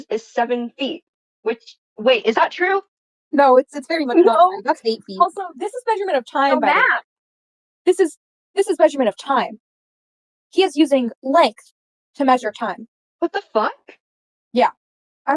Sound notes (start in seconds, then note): 9.5 stutters